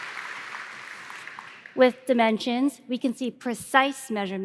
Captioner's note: applause